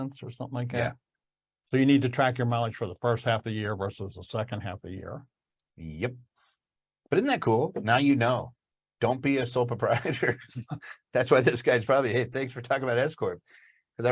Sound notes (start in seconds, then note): 9.9 laughs